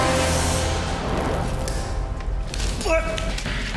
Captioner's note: fire whooshing; soldier yelping